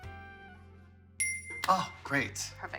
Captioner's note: air whooshing; bell dinging